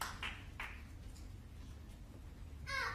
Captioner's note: applause